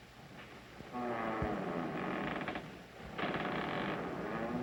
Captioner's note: creaking